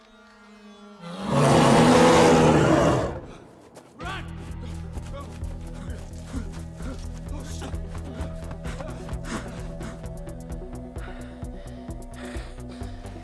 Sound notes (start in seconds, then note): 1.0 roaring; 10.2 panting